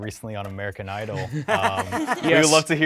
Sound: participants laughing

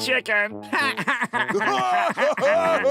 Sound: laughing

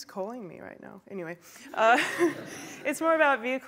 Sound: laughter

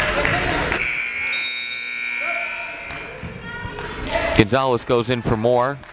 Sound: timer buzzes

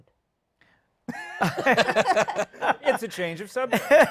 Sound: laughter

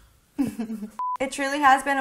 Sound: laughs; screen beeping

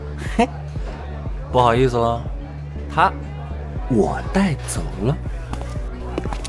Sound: laughs

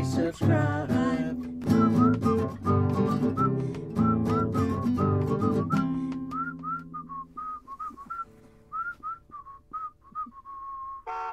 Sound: whistling

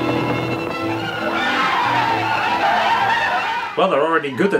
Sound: all whooping

